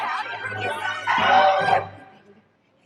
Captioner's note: crowd yapping